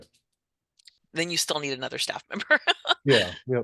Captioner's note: chuckles